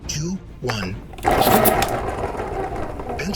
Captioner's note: pencil sharpening